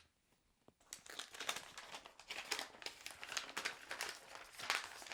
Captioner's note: paper rustling